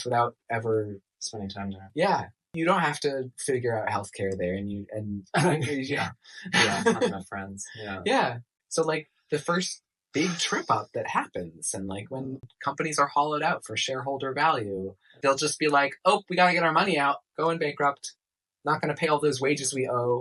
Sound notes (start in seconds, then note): 6.4 scoff laugh